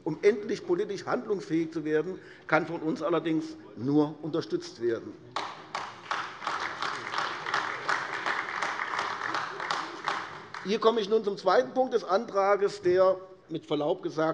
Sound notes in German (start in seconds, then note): 5.3 Beifall AfD